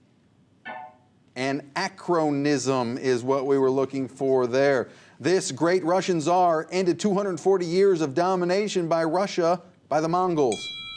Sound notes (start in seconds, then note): 0.7 ringing